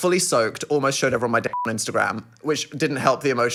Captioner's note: beep